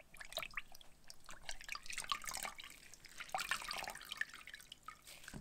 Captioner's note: water sloshes in bowl